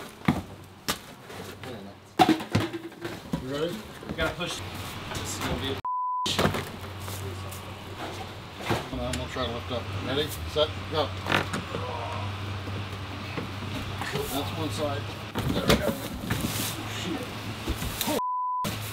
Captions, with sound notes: (crinkling and shifting) Ready? Gotta push. This is gonna be a b****. - Imma try to lift up, ready? Set, go. (grunting) That's one side. There we go, oh shit. - Holy s***